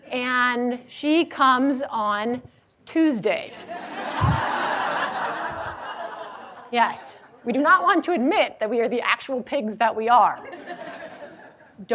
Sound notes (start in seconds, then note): 3.6 audience laughing; 10.5 audience laughing